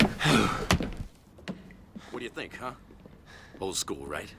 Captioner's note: breathing heavily; groans